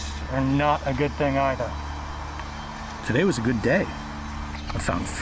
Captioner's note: none